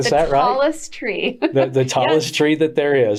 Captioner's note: chuckles